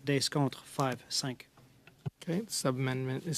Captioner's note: speaking French